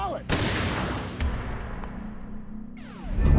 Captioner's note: gunshot